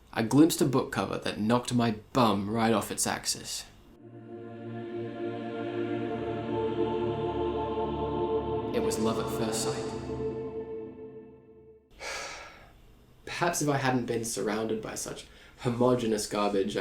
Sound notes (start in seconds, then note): 12.0 sigh